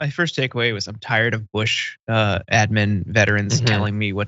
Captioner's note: laugh